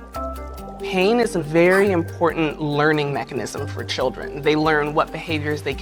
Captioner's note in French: halètement